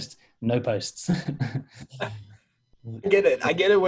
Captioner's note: laughing